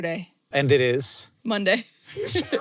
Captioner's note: laughs